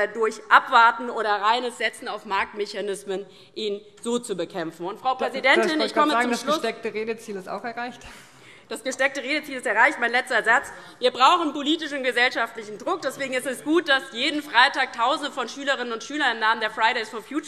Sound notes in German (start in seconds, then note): none